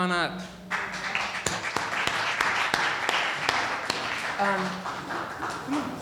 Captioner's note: audience applauding